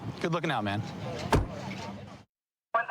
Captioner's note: car door closing